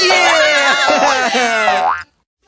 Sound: cheering

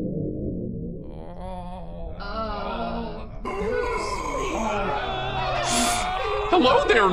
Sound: pained moans and groans

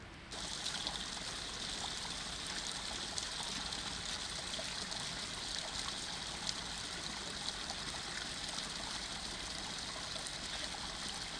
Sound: sound of nature

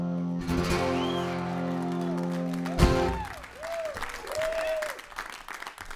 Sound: applause

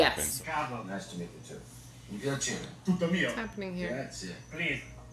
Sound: speaking Italian

